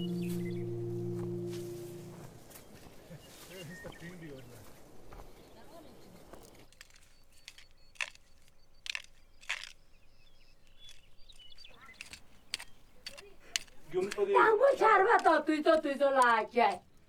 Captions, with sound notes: [footsteps, birds chirping] [indistinct chatter] [garden tool scrapes dirt] Earlier, the rains came on time.